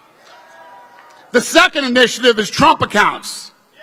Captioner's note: applause